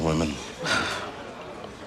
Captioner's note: sighs